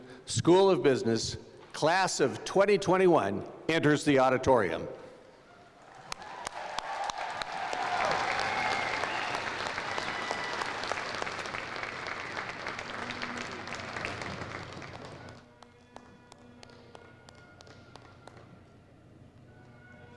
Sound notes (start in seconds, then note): 5.6 applause